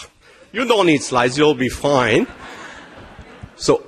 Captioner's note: laughter